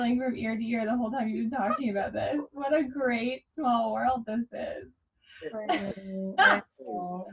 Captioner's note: everyone laughing